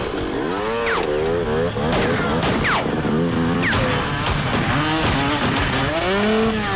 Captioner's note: motorcycle engine revs; guns firing